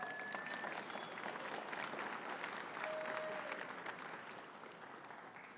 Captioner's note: audience cheering and clapping